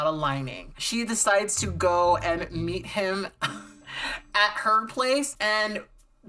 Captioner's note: laughs